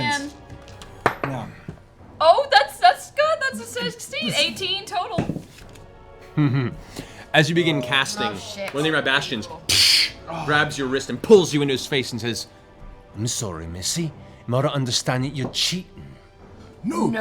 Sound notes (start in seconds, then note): 6.3 chuckles